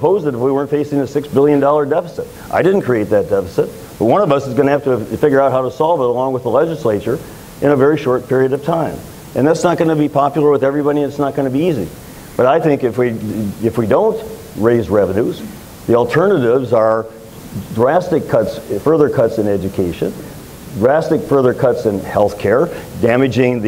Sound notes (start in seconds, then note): none